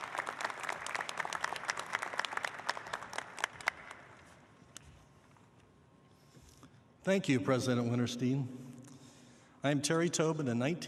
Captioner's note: applause